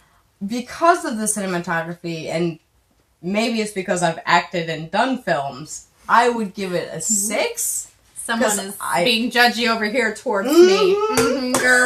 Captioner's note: mmm-Hmm!!